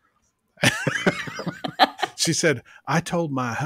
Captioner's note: both laugh